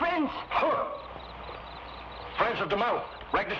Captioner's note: Magno scoffs